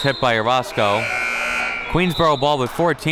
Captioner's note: buzzer blares